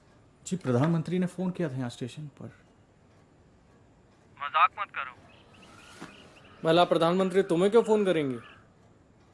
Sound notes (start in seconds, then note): 4.6 on phone